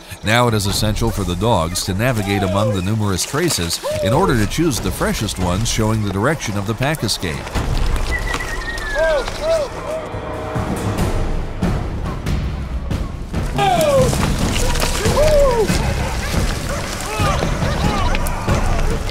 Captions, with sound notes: Now it is essential for the dogs to navigate among the numerous traces in order to choose the freshest ones showing the direction of the pack escape. [drivers yelling] [dogs barking] [drivers yelling] [dogs barking]